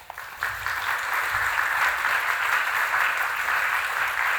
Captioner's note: audience applauds